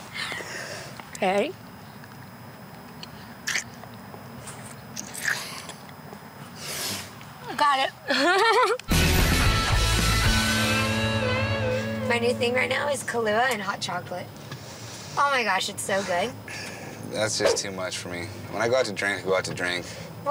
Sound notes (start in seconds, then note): 8.0 laughs